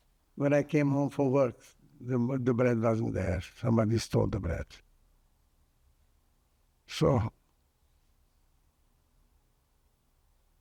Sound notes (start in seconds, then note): 7.7 pauses 12 seconds